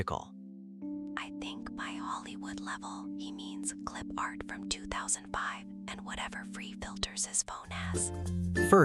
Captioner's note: Whispering to Leo